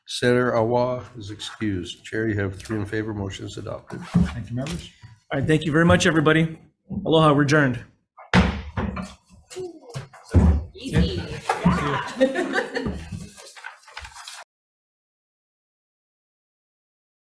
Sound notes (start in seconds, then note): 8.3 gavel bangs; 14.5 laughs